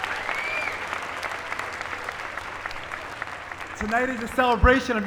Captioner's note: applause